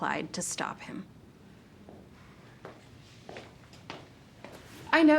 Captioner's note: footsteps receding